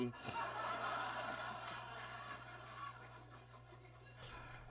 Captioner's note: audience laughs